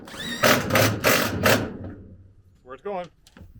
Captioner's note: drill drilling